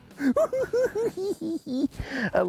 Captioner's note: cackling